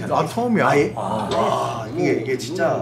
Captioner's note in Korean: 감탄